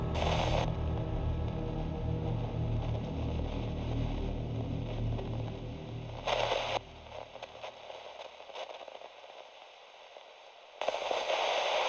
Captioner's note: static